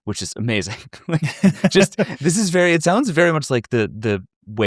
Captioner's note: chuckle